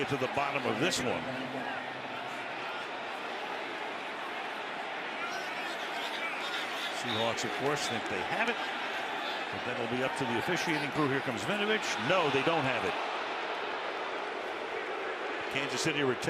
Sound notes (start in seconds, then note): 5.8 chatter